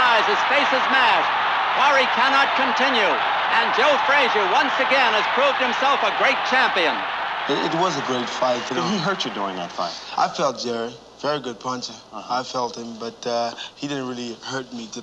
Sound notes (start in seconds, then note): 2.5 crowd cheering continues